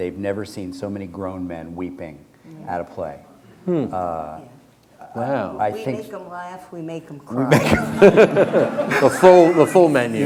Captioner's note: laughter